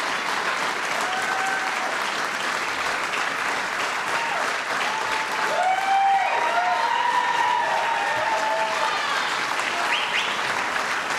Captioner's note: applause